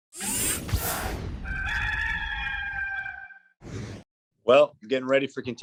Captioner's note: sound of rooster crowing